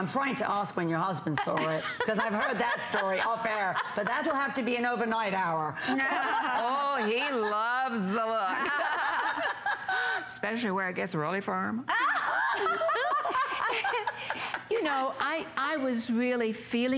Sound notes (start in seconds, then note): 11.9 laughter